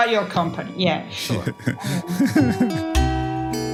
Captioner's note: laugh